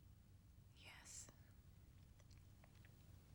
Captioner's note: whispering